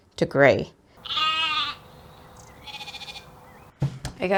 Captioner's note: sheep noises